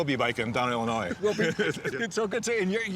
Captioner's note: laughter